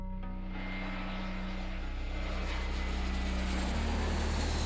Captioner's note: light music; jet engines whining